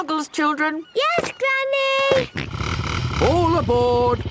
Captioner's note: snort